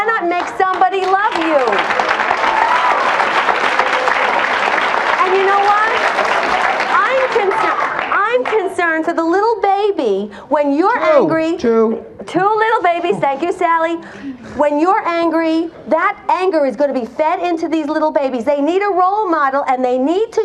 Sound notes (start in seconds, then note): 1.8 audience applauds